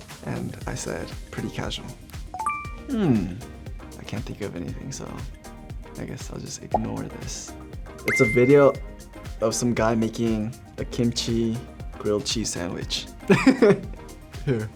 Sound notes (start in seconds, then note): 2.4 beeps; 8.1 beeps; 13.3 laughs